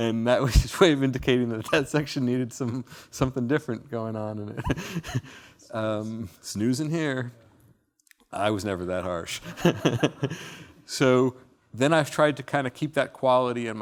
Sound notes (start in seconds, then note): 9.4 laughing